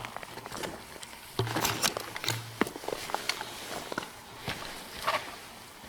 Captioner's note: footsteps crunching